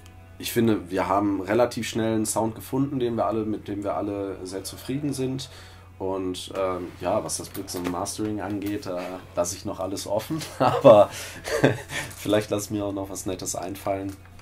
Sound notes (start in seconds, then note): 10.3 laughter